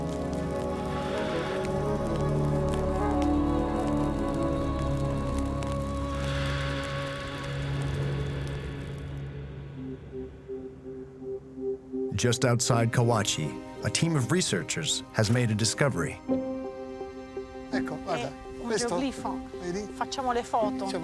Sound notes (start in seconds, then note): 17.9 speaking Italian; 20.0 in Italian